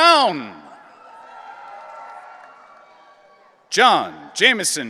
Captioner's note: audience cheering